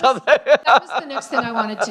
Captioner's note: laughs